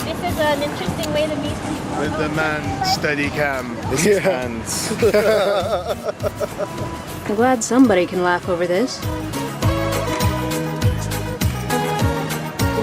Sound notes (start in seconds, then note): 4.0 laughing; 9.0 perky electronic music